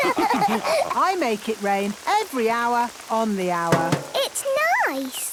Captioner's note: all laughing; taps